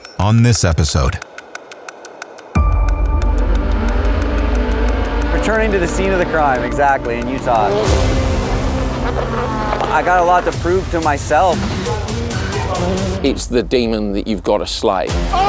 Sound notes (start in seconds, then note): 2.5 intense music; 4.0 cars revving